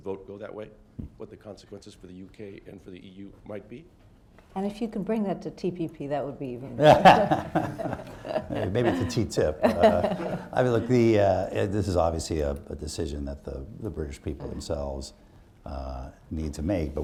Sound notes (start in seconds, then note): 6.8 laughter